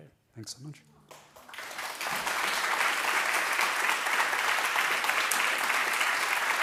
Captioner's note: audience applauding